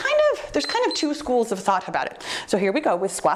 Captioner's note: timer beeps